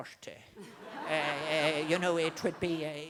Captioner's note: crowd Laughing